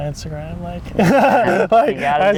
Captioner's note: laughs